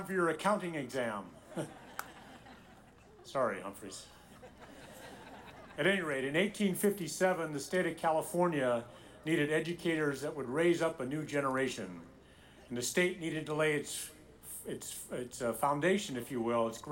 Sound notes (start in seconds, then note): 1.4 audience laughing; 1.4 chuckles; 4.2 audience laughing